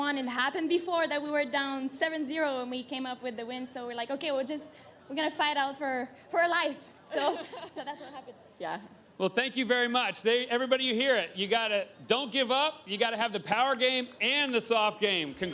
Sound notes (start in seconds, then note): 7.1 laughs